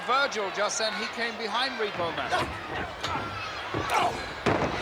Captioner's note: blows thudding; body thudding